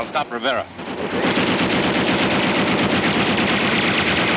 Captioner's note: gunshots